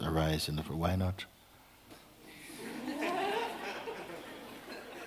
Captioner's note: laughter